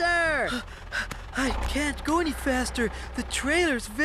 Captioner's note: panting